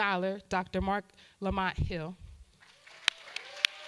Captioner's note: audience applause; claps